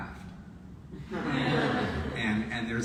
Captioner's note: audience laughs